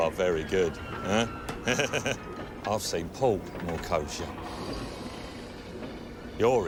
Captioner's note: laughs